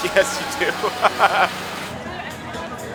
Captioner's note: laughing